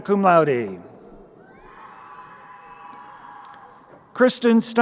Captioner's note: crowd cheering